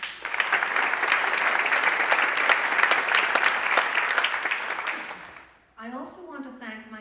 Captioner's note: applause